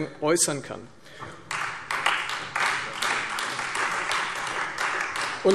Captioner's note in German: Beifall Freie Demokraten